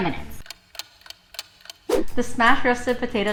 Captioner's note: clock ticking